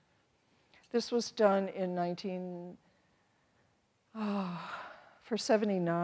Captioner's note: sighs